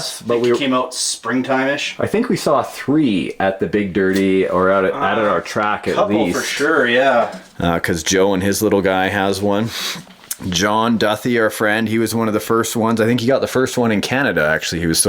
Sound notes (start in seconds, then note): 0.0 voiceover; 6.7 voiceover